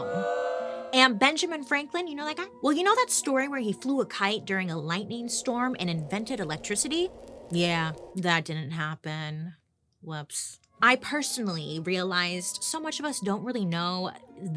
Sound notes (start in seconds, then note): 0.2 crowd booing; 7.2 wind howling